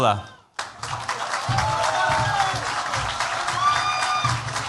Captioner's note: cheers, applause